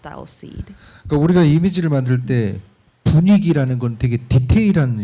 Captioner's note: speaking korean